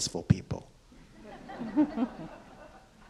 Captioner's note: audience and panelists chuckle